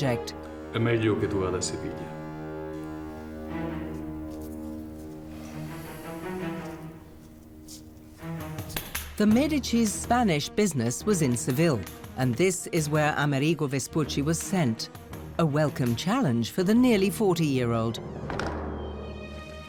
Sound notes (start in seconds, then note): 0.5 speaking Italian; 3.4 string music